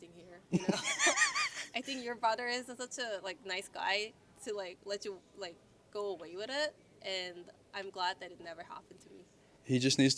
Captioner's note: laughs